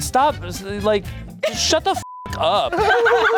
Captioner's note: beep; everyone laughing